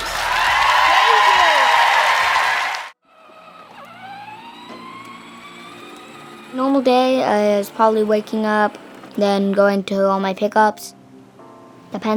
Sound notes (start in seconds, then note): 0.0 applause; 3.0 truck engine revving